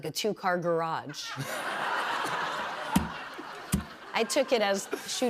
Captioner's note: laughter